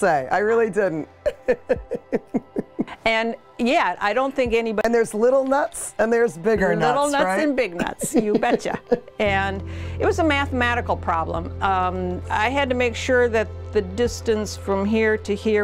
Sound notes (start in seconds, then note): 1.2 laughs; 7.7 laughter